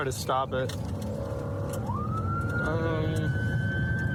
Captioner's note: siren blaring